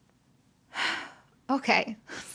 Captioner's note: sighs